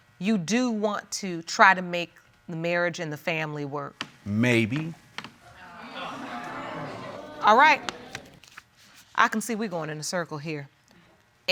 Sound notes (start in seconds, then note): 5.5 audience exclaims